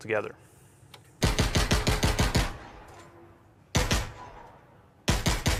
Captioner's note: gunshots